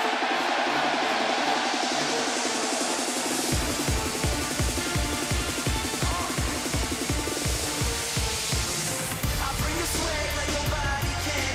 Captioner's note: crowd cheering